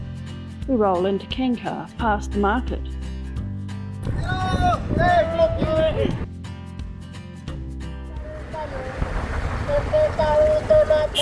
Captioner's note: party music; motorbike engine